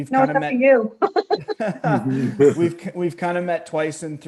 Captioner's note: all laughs